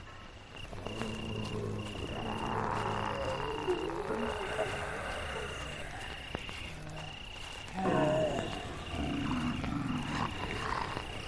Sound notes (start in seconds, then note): 1.0 zombies groaning; 7.8 zombies growling